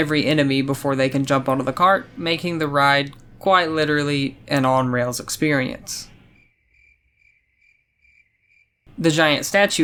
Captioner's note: crickets